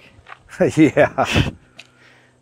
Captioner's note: chuckling